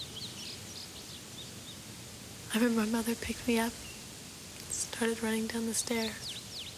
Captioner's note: none